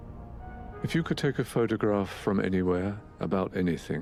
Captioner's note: voiceover